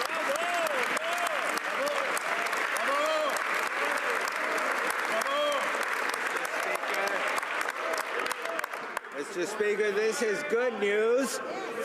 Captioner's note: some Applause